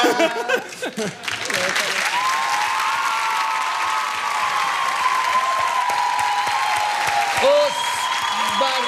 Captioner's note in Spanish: aplausos